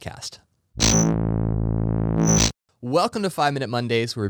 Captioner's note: buzz